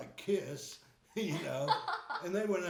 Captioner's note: laughing